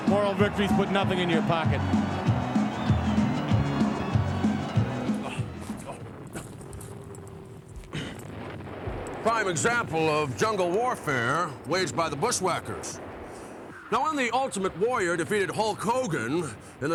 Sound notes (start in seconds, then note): 2.6 upbeat music; 5.6 leaves rustling